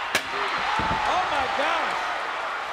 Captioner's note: chair clattering